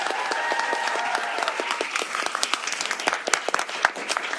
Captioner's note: applause